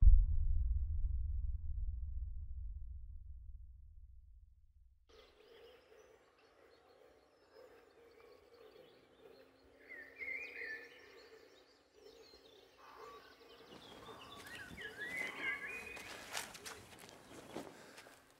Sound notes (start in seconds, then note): 5.0 birds chirping